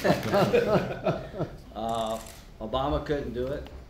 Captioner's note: laughter